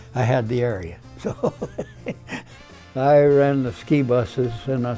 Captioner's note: laughs